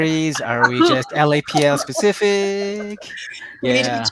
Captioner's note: everyone laughing